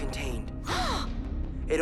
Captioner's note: both gasps